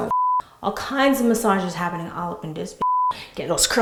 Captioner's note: beep